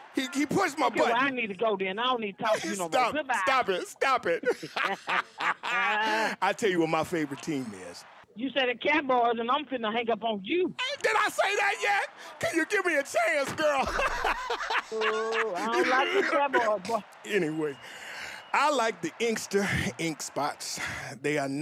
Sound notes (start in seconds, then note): 3.8 both laughing; 14.0 laughing